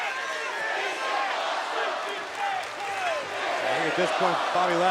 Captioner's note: crowd chants "This is awesome"